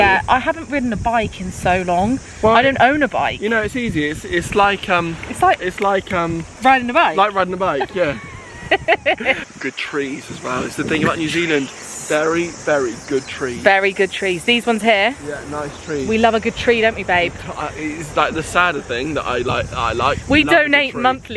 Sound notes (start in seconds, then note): 6.0 snapping; 7.6 laughing